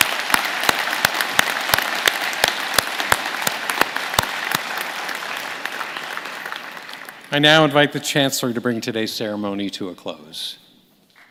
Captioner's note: applause